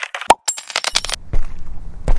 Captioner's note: typing; coin drop sound; the sound of footsteps